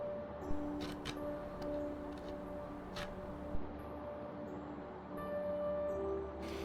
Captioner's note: wood scraping